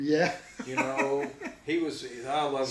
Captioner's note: laughs